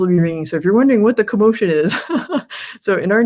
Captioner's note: laughs